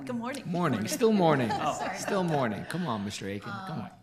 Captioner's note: everyone laughing